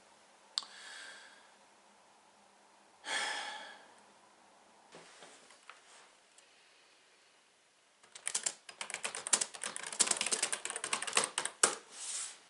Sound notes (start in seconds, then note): 0.6 keyboard player inhales; 2.8 Keyboard player sighs; 8.0 keyboard clacks